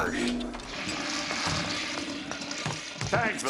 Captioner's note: <i>toilet flushing</i>